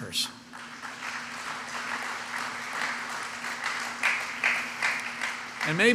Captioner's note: applause